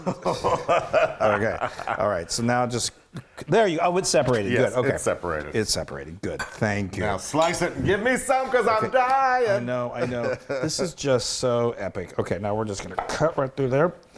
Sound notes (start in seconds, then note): 0.0 laugh; 9.8 laugh